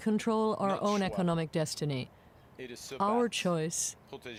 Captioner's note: speaking French